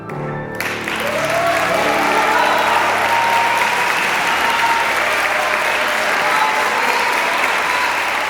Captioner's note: applause and cheers